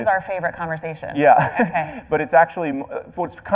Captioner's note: laughs